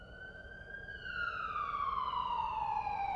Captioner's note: sounds of sirens